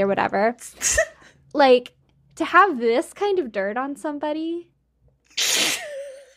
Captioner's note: laughing